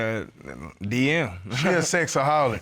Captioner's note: chuckles